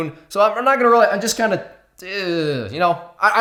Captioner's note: groans